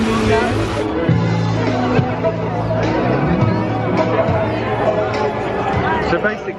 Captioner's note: cheerful upbeat music; people chattering